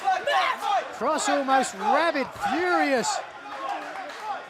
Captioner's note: fans chanting